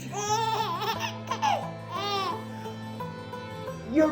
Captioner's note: baby giggling